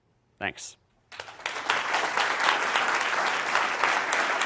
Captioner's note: applause